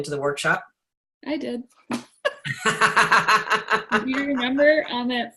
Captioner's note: both laugh